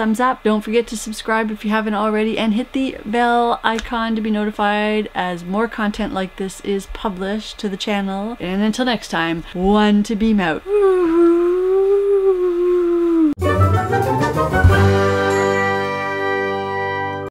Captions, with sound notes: up. Don't forget to subscribe if you haven't already and hit the bell icon to be notified as more content like this is published to the channel. And until next time one to beam out. [whooo] [end music]